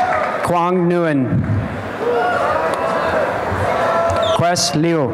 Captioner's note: applause and cheering